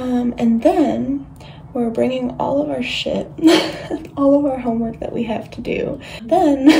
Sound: giggles

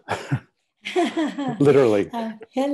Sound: laugh

